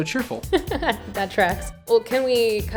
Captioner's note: laughs